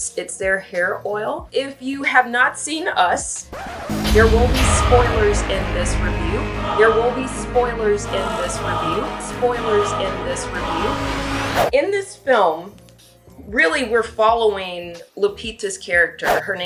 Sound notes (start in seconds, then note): 3.4 dramatic music; 3.5 record scratches